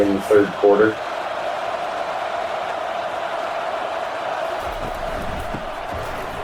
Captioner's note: crowd Noises